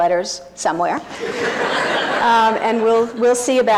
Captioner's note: audience laughing